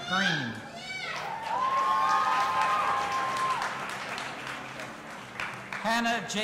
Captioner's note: audience applauding and cheering